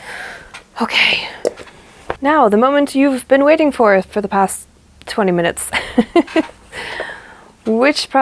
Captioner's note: laughs